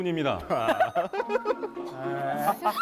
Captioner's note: laughing, Going Crazy